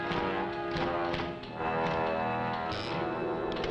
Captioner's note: typing